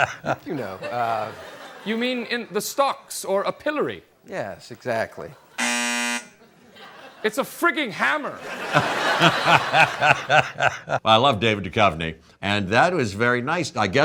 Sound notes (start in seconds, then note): 0.0 Jeff laughing; 5.6 beeper sound; 8.2 audience and Jeff laughing